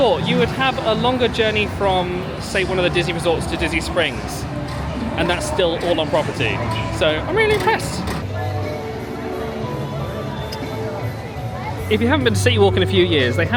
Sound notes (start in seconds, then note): 8.8 crowd chattering; 8.8 gentle music